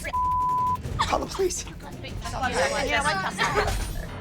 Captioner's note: girls sobbing